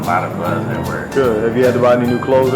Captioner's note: voiceover